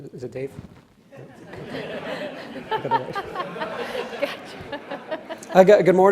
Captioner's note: audience and panel laughs